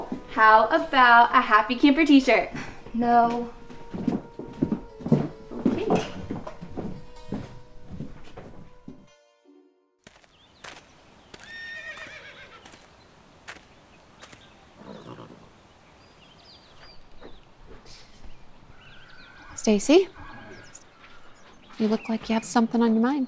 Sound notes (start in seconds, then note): 5.3 scoffs; 10.2 birds chirping; 11.4 horse neighing